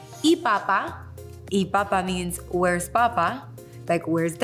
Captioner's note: speaking a foreign language